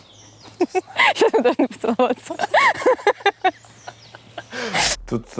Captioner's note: all three laugh